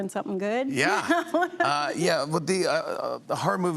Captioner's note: laughs